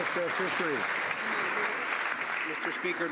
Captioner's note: some Applause